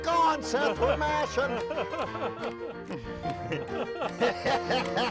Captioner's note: laughing; both laughing